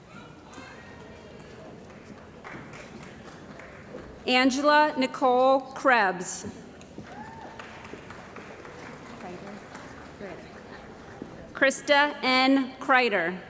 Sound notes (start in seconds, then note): 1.2 applause; 7.0 cheering & Applause